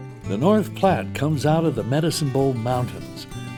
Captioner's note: voiceover